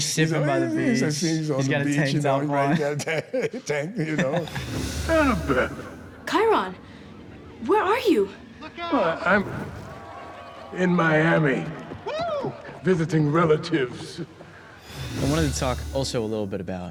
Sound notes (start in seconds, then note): 8.7 cheering